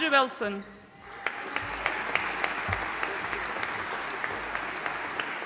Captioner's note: audience applauding